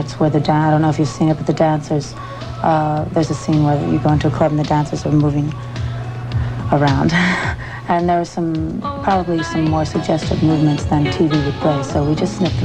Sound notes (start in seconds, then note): 7.0 laughs